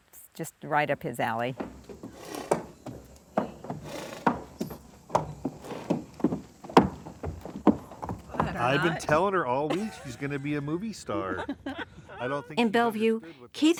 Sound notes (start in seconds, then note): 7.5 steps thudding